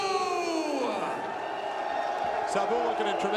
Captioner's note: crowd cheering